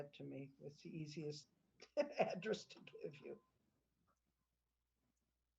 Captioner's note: laughter